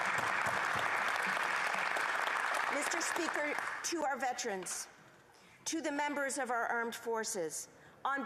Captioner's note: applause